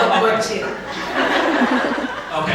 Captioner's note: laughter from the audience